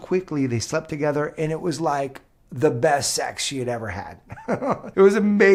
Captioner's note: laughs